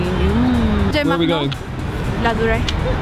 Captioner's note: speaking foreign language